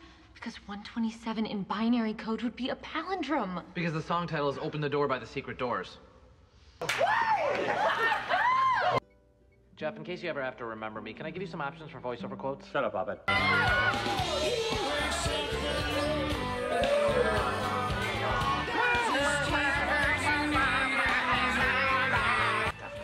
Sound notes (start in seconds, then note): 6.8 laughing and cheering; 13.2 cheering